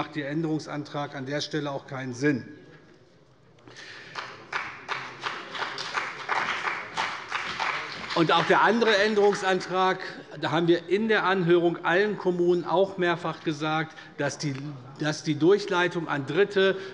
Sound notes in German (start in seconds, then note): 3.8 Beifall bei der CDU und dem BÜNDNIS 90/DIE GRÜNEN